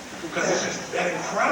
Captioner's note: crowd laughs